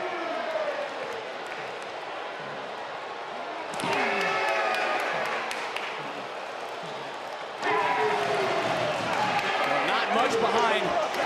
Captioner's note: crowd cheering